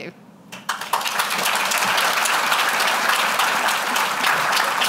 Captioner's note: applause